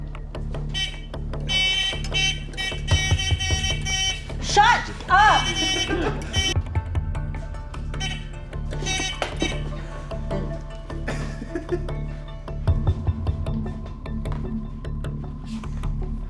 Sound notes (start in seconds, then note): 0.7 hooter buzzing; 4.9 producer laughing; 7.9 hooter buzzing; 11.0 producer laughing; 12.7 intense music